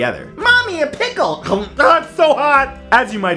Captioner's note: chomps